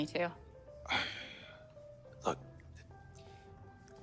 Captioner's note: sighing